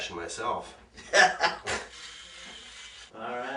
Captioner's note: laughing